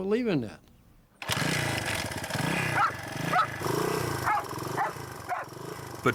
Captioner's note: dog barking; motorbike roaring